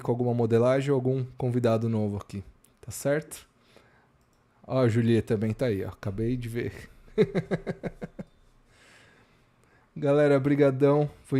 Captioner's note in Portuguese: risadas